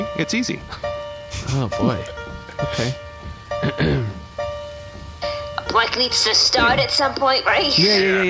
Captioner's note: starts playing a simple piano melody; clears throat and pauses